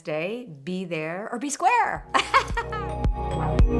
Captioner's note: tranquil music; laughing